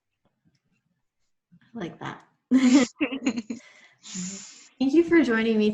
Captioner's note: laughing